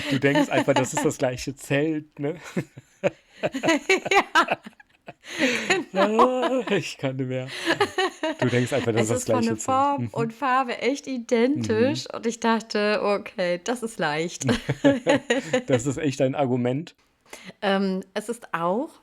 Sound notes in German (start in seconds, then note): 5.5 gelächter; 14.4 gelächter